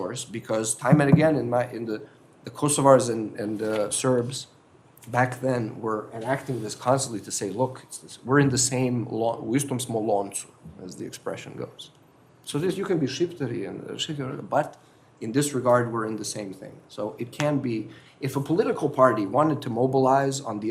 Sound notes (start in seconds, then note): 9.4 foreign phrase